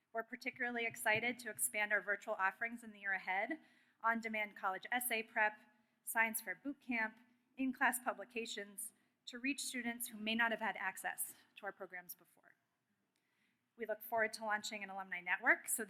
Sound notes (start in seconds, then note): none